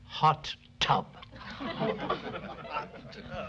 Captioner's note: laughter